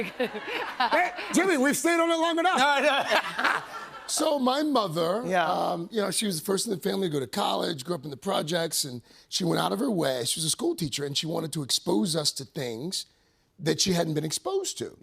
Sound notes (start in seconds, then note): 0.0 laughter; 2.8 laughter